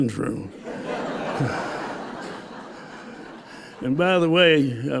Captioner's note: laughter